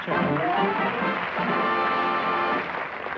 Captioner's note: applause